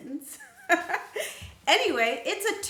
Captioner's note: laughs